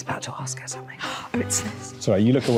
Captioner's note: gasping